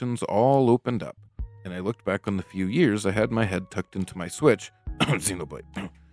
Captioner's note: cough